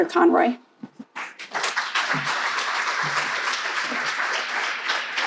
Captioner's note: crowd applauding